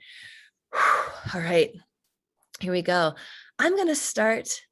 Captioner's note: exhaling